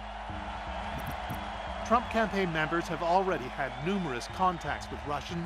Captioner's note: cheers and Applause